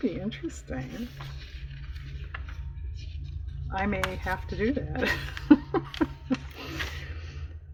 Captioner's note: laughs